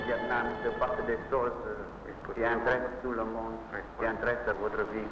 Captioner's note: speaking in foreign language